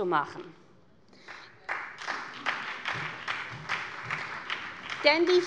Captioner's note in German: Beifall bei der SPD